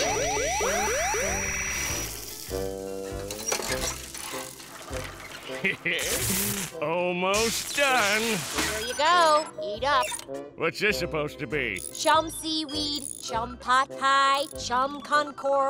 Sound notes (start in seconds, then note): 5.5 chuckles